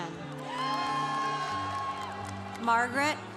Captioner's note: congregation cheering